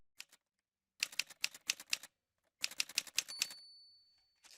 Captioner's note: typewriter sounds